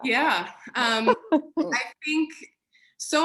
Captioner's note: laughter